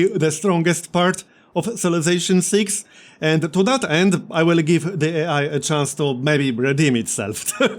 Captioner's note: laughs